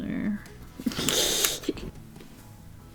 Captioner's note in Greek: Γέλια